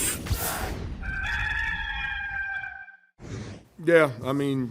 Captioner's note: rooster crowing